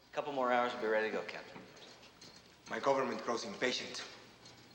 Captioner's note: none